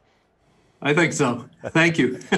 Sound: laughs

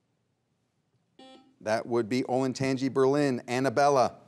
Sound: buzzer beeps once

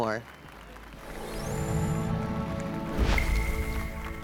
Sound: applause and cheers

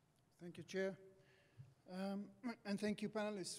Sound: voiceover

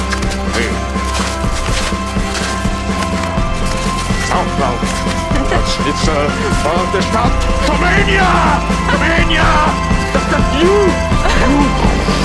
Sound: exhales, performs parody imitating Chaplin

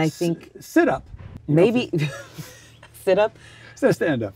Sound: laughs

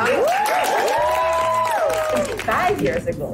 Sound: cheering

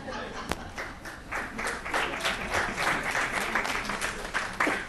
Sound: laughs; crowd applauds

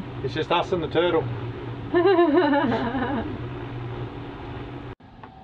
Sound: laughing

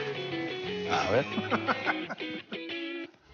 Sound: laughs

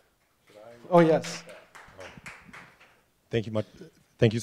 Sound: applause

